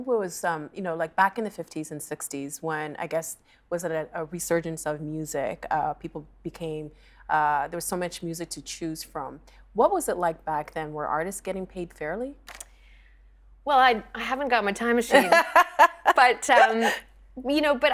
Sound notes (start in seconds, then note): 15.1 laughing